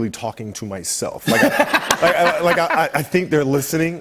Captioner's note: laughter